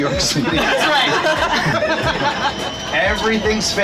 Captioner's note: group laughing